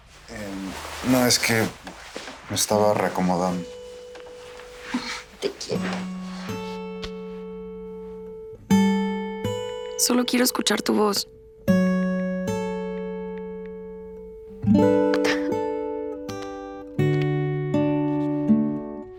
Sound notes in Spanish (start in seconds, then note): 15.1 sollozo